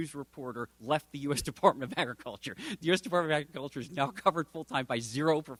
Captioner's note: chuckling